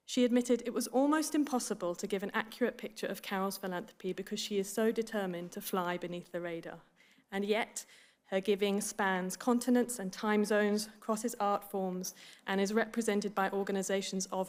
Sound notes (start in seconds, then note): none